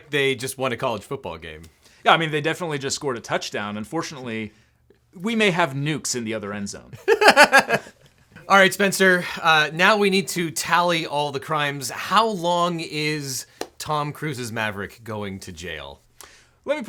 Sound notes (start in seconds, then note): 7.0 laughing